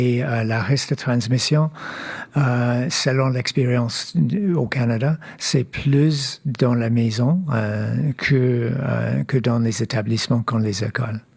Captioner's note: speaking French